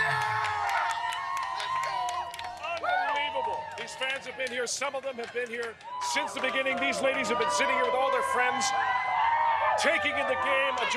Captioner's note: cheers and Applause